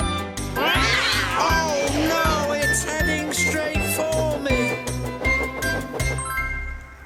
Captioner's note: meows demonically